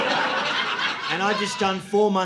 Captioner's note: audience laughing